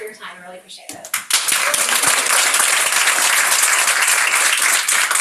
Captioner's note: crowd members clapping